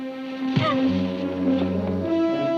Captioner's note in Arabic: موسيقى مثيرة; ريب يتذمر; ضربات القبضات